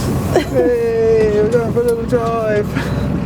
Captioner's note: laughing